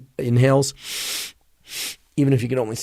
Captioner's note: breathing